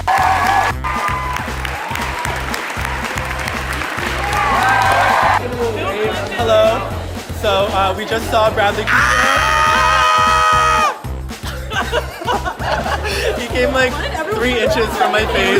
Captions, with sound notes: - Hello, so we just saw Bradley Cooper. (excited screaming) He came like three inches from my face.